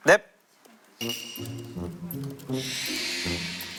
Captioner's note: typing away